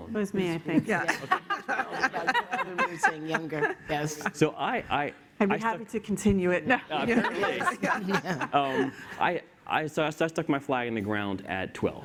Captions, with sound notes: - It was me, I think, yeah. (laughter) I'd be happy to continue it. (laughs) - I stuck my flag in the ground at 12,